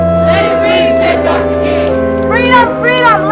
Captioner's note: crowd